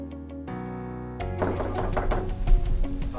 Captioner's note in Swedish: knackning på dörren